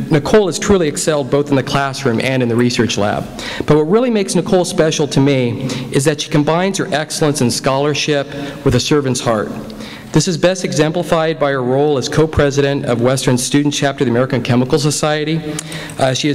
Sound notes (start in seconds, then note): none